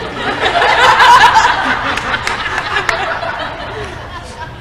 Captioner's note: crowd laughter